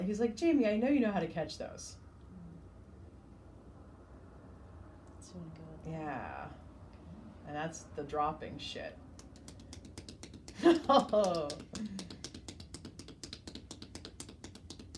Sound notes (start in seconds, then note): 10.6 laughs; 12.1 hands tapping